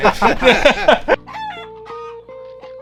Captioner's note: laughs